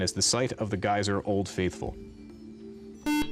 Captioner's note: beep